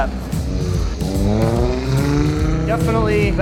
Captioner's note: engine revving